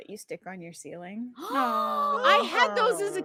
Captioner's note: gasps